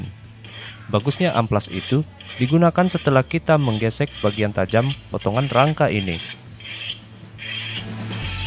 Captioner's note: sandpaper is used